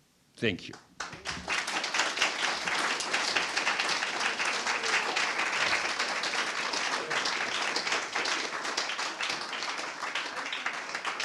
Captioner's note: applause